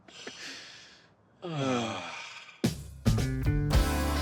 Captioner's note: sighing